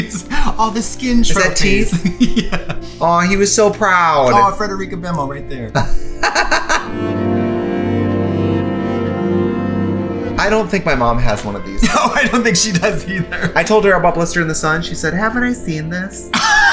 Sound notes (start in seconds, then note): 5.7 laughs; 16.3 laughs